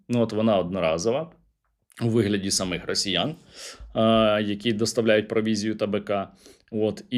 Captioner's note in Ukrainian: сопіння